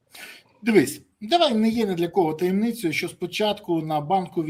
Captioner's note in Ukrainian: сопіння